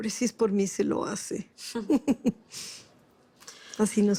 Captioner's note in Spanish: Risas